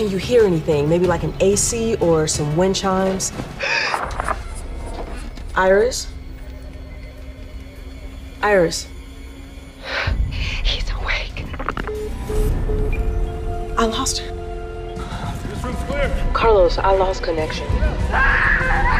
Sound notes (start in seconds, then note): 3.6 Iris gasps; 9.6 gasps; 11.5 line disconnects; 15.8 on phone; 18.1 woman screams